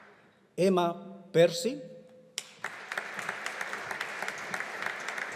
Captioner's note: audience applauding